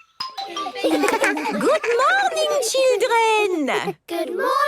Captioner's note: laughter